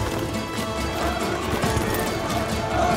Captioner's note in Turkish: Hep bir ağızdan